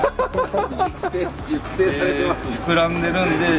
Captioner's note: laughs